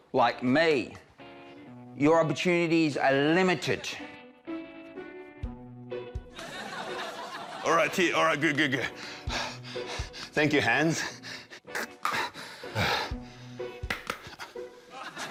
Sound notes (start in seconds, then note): 4.5 laughter; 10.8 breathes heavily; 11.8 claps; 12.8 laughter